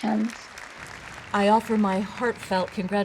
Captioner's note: audience applause